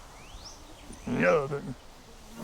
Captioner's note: horse snorts